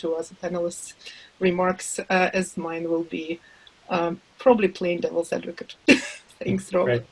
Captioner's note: laughs